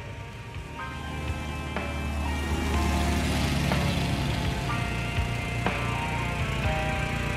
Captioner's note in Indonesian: Suara Motor